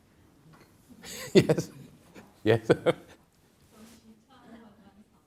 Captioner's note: chuckling